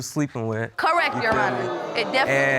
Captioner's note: audience exclaiming